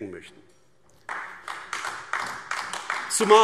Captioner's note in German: Beifall AfD